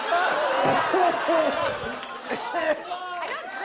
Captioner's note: laughter; laughs, coughs